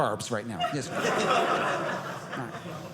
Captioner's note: audience laughing